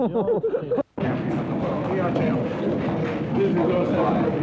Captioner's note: laughing; people chattering